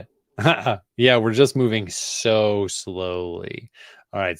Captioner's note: laughs